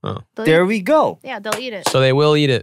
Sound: clapping

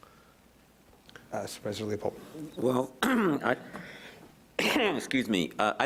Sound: coughs

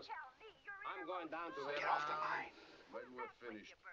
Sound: </i> Chattering Continues <i>; whispering

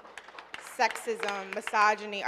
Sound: audience applauding

